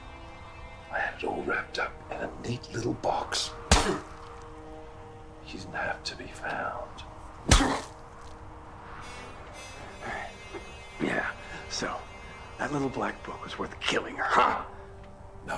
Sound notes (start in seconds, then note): 3.3 smacking; 7.3 smacking